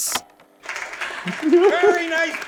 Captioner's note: audience clapping loudly